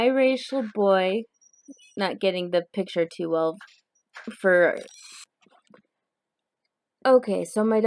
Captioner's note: squealing door interrupts the video